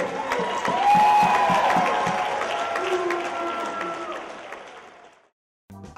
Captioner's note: cheers and applause